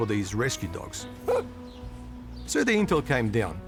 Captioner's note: dog barks